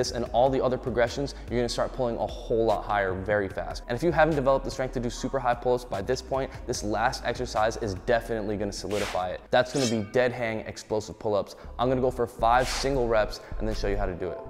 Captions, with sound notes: and all the other progressions, you're gonna start pulling a whole lot higher very fast, and if you haven't developed the strength to do super high pull-ups by this point, this last exercise is definitely gonna solidify it, (air whooshing) (blades clinking) that's gonna be deadhang explosive pull-ups, I'm gonna go for five single reps, (air whooshing) and then show you how to do it.